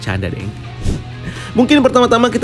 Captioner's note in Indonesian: suara transisi